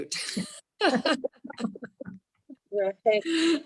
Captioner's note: laughs